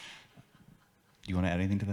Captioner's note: audience laughs